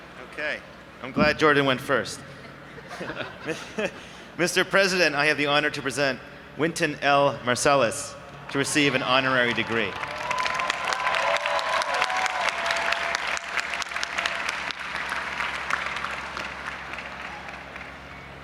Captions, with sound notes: - Okay, I'm glad Jordan went first, Mr. President, I have the honor to present Winton Marsalis to receive an honorary degree. (audience applauding and cheering)